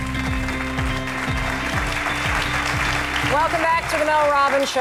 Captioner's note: audience claps